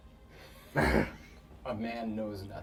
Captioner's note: laughs